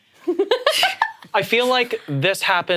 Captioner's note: laughs